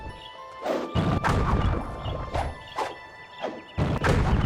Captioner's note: dramatic music; fireballs whooshing